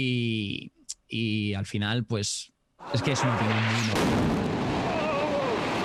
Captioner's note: thunder of explosion